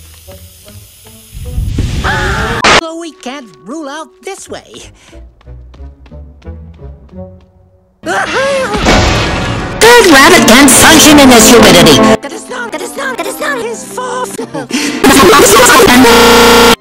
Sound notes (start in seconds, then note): 1.8 fire sounds, Rabbit scream; 8.3 rabbit scream, Piano slam; 15.0 chuckles